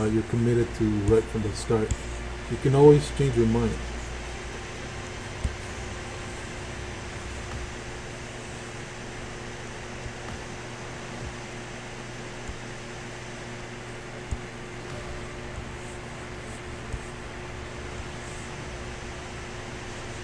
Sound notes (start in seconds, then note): 4.9 computer mouse tapping; 4.9 faint techno music